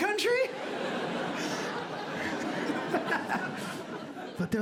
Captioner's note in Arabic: يضحك